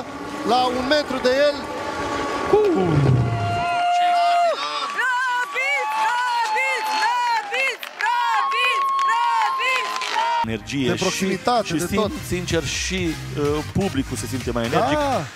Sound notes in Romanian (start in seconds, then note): 4.6 Aplauze